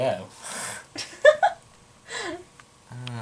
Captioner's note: laughs